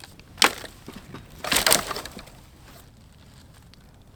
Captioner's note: wood cracking